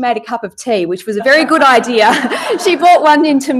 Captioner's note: laughs